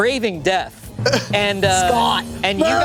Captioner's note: grunting